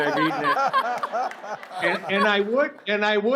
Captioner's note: laughter